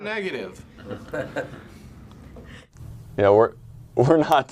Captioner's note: people chuckling